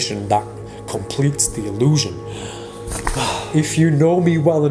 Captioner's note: sighs